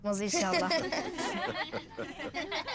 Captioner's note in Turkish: Gülme sesleri